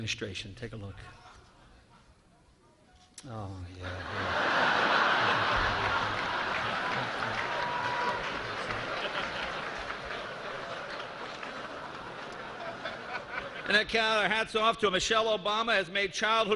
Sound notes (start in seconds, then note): 0.3 laughter; 10.3 applause